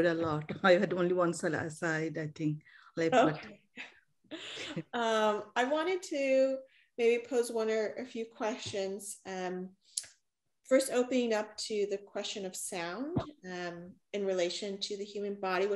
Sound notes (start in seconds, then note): 4.3 chuckles